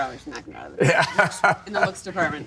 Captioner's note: laughing